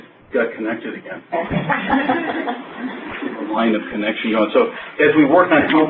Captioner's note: laughter